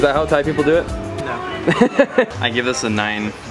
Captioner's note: laughing